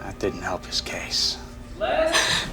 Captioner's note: gasps